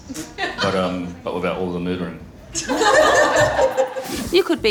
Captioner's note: crowd laughs